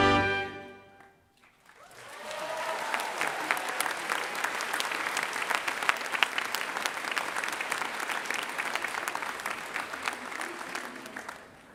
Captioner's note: applause